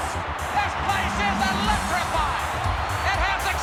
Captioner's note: crowd cheering